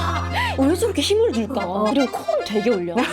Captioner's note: hehehe